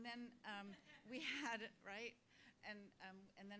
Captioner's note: laugh